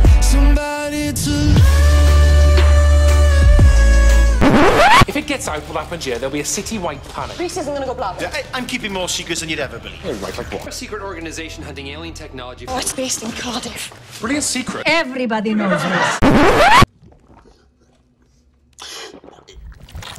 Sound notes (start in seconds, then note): 4.4 record scratch; 16.2 record scratch